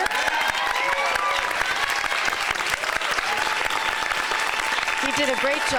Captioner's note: applause